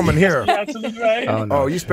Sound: laughing

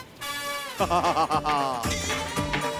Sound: laughs

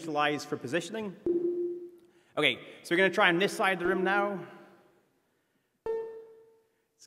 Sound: tone played

